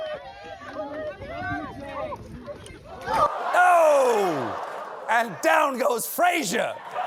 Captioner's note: shouting